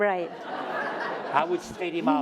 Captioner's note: laughter